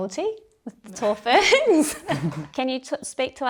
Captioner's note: women chuckle